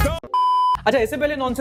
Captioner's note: beep